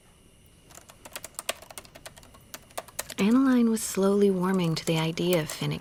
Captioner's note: typing